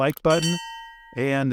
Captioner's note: bell rings